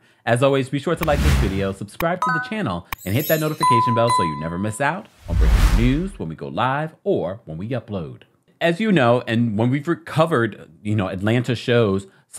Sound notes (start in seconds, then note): 2.2 bell dinging; 2.2 chimes twinkling